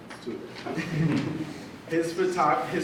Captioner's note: audience laughs